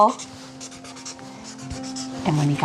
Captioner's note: pen scribbling